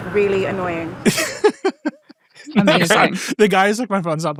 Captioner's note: laughing